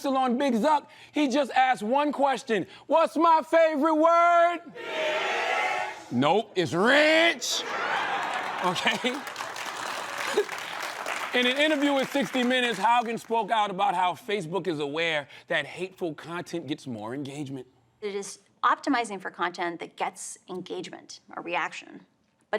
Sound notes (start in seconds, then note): 7.8 applause